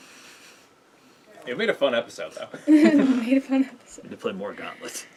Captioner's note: laughing